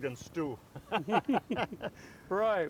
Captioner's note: men laugh